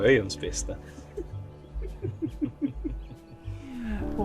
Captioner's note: laughs